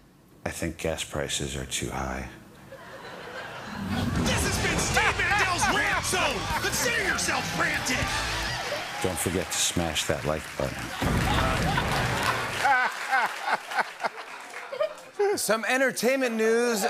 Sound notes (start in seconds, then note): 2.6 laughter; 11.0 laughter and applause